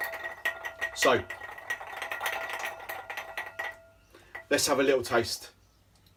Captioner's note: ice cube clinking